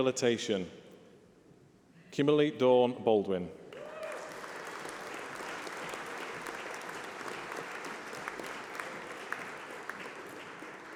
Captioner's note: applause